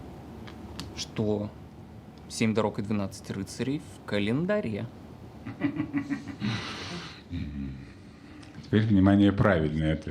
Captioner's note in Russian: смех